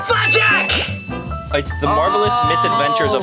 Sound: bell dings

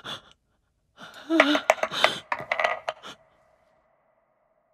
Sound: dice rolling

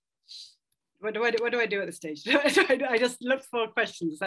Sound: laughs

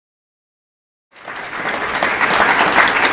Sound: applause

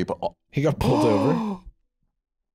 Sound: gasps

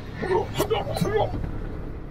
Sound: grunts

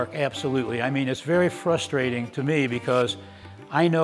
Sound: none

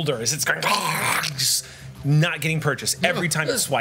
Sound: monster sounds

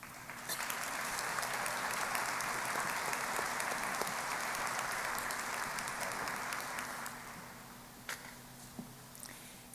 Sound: applause

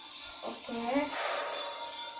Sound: heavy breath...tense

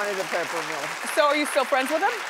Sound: audience clapping

